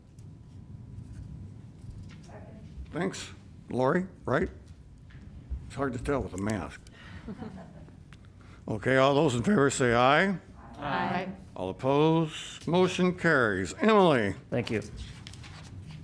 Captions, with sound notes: Second. Thanks, Laura. It's hard to tell with a mask [LAUGHTER] All those in favor say aye. Aye. All oppose. Motion carries. Emily. Thank you.